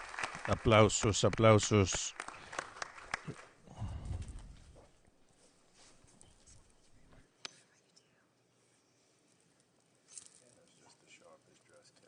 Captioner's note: applause